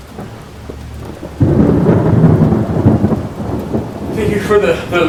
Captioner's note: thunder rumbling